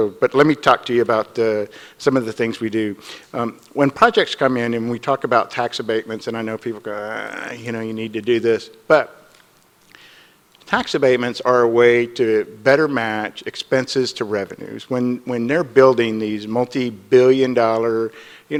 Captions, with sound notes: But let me talk to you about some of the things we do. When projects come in, and we talk about tax abatements, and I know people go, (groans) you know, you need to do this, but tax abatements are a way to better match expenses to revenues. When they're building these multi-billion dollar...